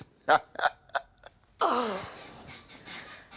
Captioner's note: laughs; Beverly sighs